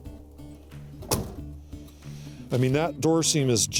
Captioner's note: car door closes